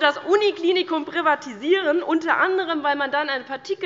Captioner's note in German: none